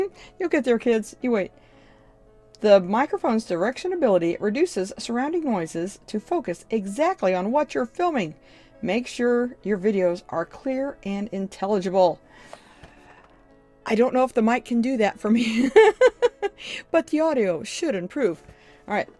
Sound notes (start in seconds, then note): 15.5 laughs